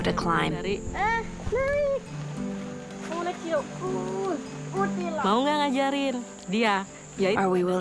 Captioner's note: speaking in foreign language